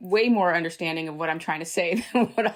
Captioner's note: laughter